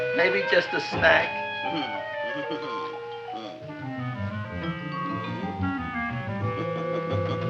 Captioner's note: anticipatory music; Audrey Jr. chuckling